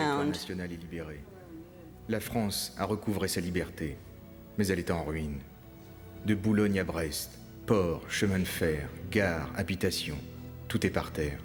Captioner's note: speaking french